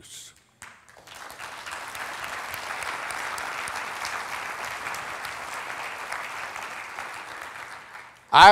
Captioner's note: applauding